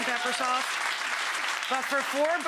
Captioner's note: audience cheers